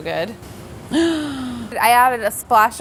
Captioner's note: gasps